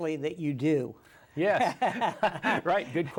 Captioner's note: both laugh